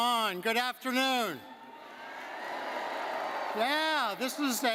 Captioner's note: crowd cheering